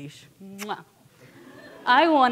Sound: audience chuckling

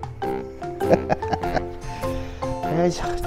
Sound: laughs

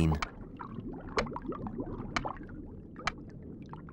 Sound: seal continues clicking

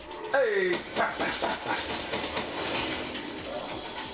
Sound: gun firing

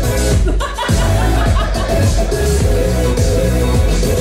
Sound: laughing

